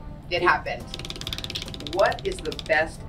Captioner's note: wheel clicking